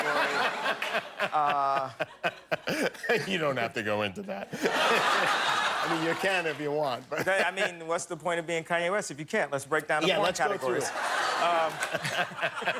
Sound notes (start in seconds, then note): 0.0 laughter; 4.4 laughter